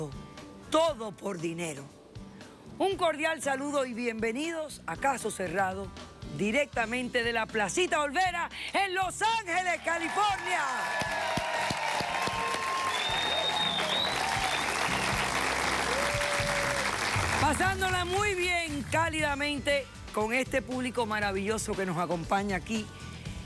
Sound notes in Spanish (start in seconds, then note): 12.0 Aplausos; 12.0 Exclamaciones